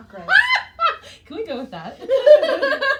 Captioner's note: both laughing; laughs